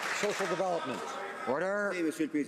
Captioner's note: some Applause